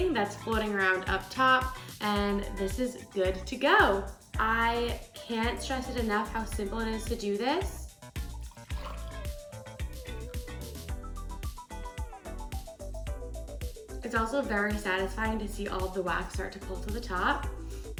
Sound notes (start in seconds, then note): 8.2 water pours; 11.7 upbeat music